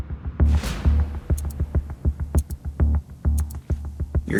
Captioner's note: clock ticking